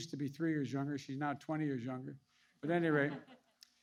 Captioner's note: laughter